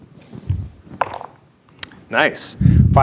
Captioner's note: dice rolling